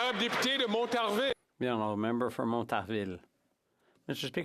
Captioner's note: some Applause